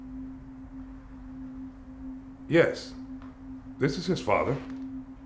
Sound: cell phone buzzing

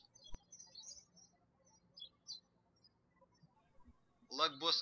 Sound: birds chirping

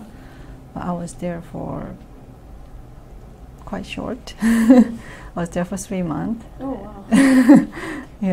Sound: laughs

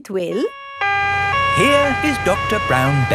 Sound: siren wailing

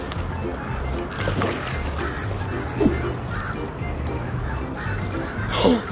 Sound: duck quacks and splashes

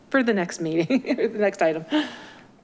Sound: laughing

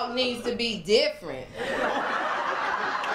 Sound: laughter, applause, and cheering

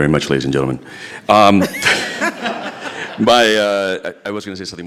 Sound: all laugh

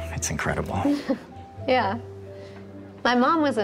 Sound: laughs

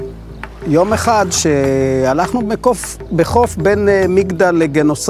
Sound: speaking in foreign language

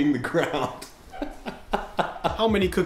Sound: laughter

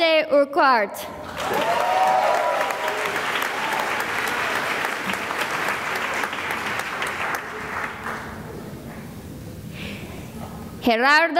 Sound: cheering and applause

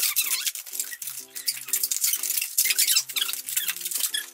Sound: squeaking

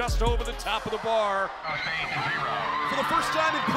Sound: team cheering

